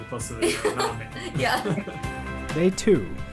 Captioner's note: laughs